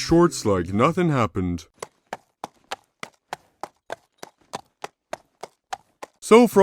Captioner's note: walking sound effect